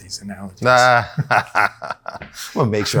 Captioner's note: laughs